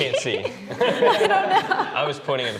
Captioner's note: everybody laughs